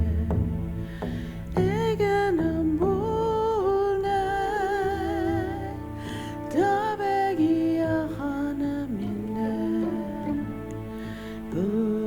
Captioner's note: In Mi’kmaq; In Mi’kmaq